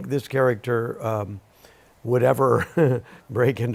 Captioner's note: chuckles